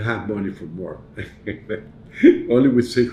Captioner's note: chuckles